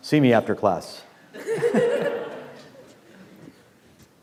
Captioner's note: class laughs